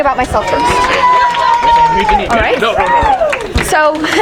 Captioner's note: audience cheering